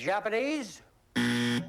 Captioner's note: buzzer